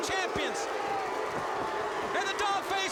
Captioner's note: crowd cheering